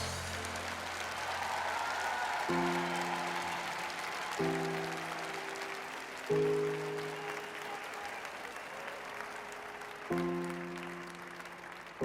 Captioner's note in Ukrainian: оплески